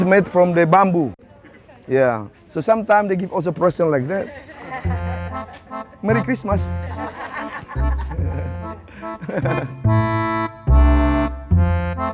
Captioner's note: group laughing